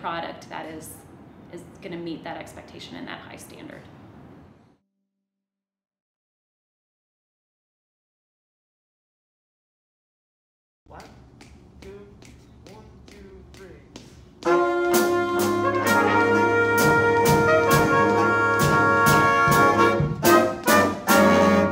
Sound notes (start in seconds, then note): 10.9 snapping fingers; 14.4 students playing music